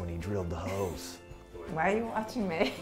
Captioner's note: laughs